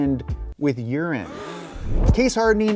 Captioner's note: audience gasps